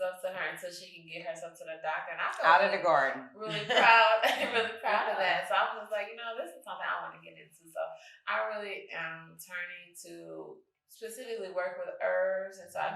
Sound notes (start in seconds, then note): 3.4 chuckles